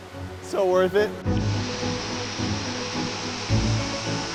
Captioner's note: water rushing